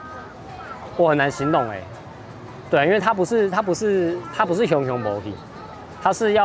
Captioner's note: in Taiwanese